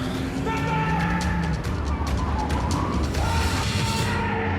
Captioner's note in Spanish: Gritos y exclamaciones